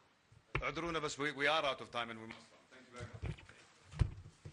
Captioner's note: in Arabic